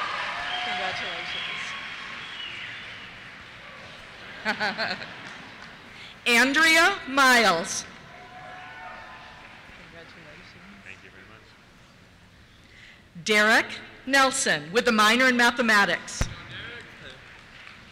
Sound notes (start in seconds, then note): 4.2 laughter; 6.1 voiceover; 8.0 cheers; 17.0 cheers